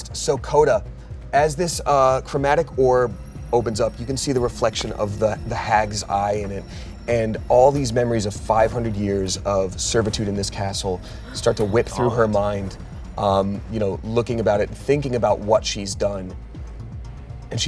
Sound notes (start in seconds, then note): 10.9 both gasp